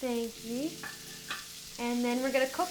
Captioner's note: shallots and garlic sizzling